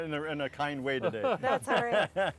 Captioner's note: both laughing